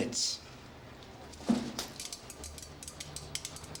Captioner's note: pills falling